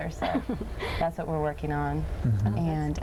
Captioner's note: laughing